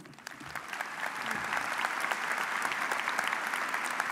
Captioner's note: audience applauds